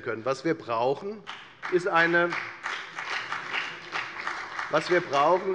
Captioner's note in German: Beifall bei der FDP